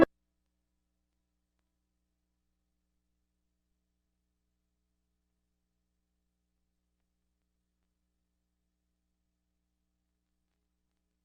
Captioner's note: silence